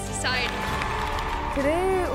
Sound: audience cheers

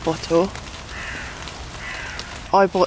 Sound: crows cawing

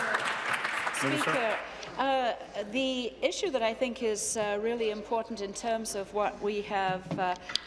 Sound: applause

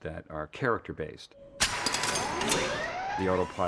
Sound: whirring

